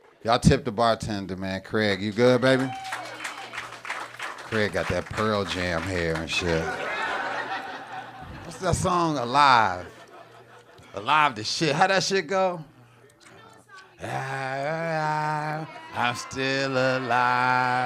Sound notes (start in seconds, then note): 2.4 audience applauding; 6.8 audience laughing